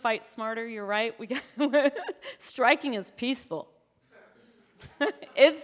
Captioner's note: chuckles